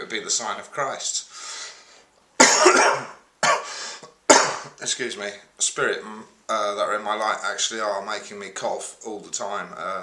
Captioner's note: coughs